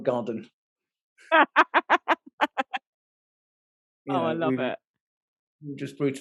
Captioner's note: laughing